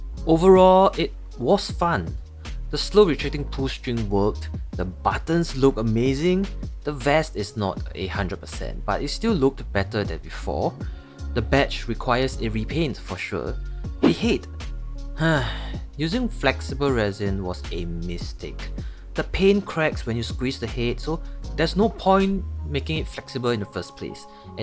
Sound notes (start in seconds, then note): 15.2 sigh